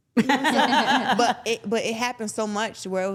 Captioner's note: everyone laughs